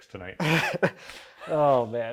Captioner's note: speaker laughing